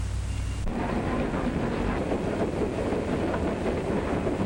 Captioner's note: sounds of a train moving on tracks